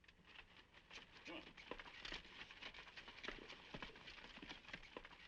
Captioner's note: horse hooves clopping